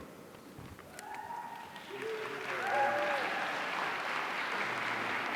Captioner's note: audience applauding